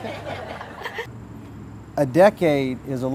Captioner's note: laughing